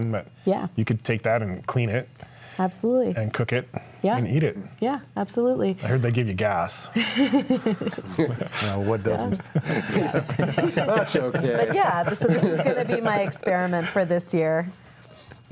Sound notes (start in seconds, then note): 7.0 laughing; 9.9 all laughing